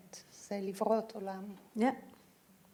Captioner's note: speaking in foreign language